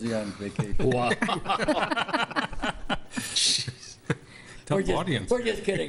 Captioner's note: some board members laugh